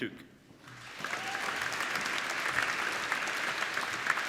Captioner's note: applauding